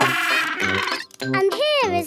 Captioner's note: honking